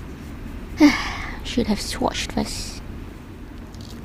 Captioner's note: sighs